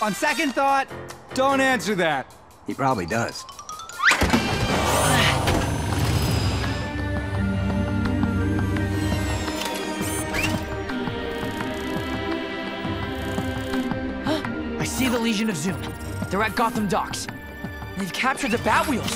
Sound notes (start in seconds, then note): 14.5 gasps